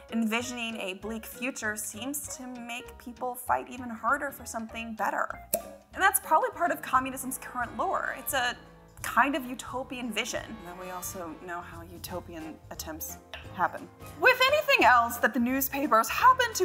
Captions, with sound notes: envisioning a bleak future seems to make people fight even harder for something better. (cork pops) And that's probably part of communism's current lore. It's a kind of utopian vision. And then we also know how utopian attempts happen. "With anything else that the newspapers happen